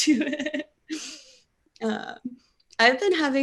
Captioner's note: laughing